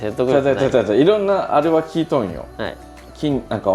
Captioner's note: laughs